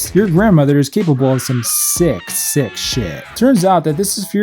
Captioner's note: woman screaming